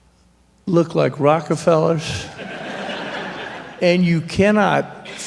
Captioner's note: laughter